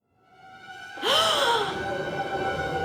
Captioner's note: gasps